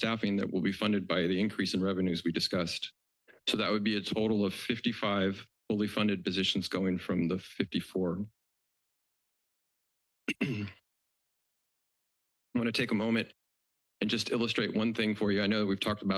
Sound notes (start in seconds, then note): 10.3 throat clearing